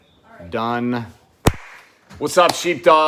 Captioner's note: claps